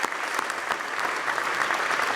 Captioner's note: applause